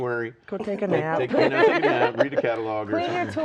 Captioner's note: all laughing